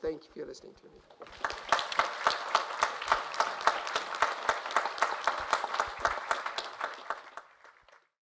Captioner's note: applause